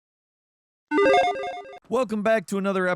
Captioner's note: electronic beeping